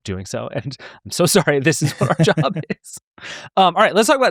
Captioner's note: laughing